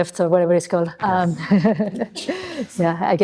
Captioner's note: chuckles